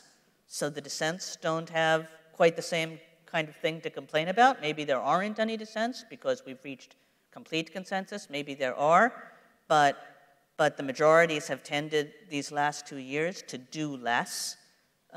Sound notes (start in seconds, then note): none